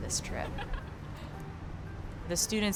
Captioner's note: laughing